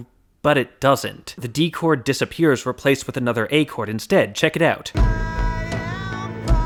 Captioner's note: bang